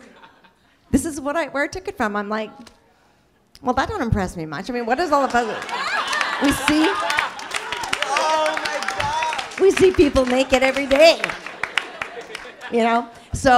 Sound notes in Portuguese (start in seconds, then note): 5.2 risos e surpresa